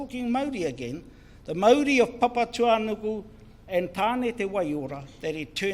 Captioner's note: foreign Language